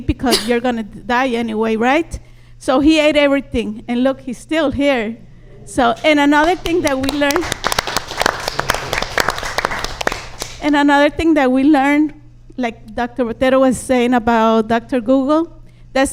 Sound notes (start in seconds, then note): 6.4 audience applauds